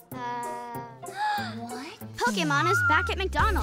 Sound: gasp

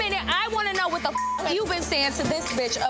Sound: beep

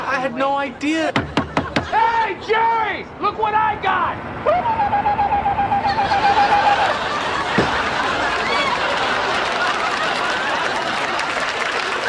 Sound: knock, knock, knock; laughter

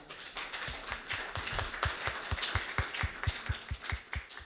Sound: applause

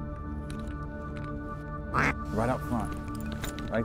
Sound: duck calls

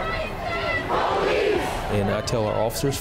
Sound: crowd

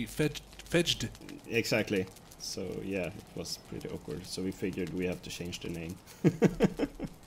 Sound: laughs

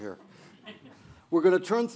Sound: light audience laughter

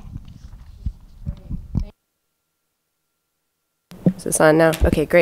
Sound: audio trails off

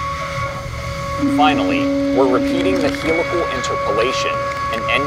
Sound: machining noises

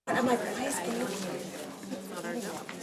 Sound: committee chattering

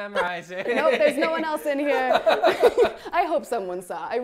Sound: laughs

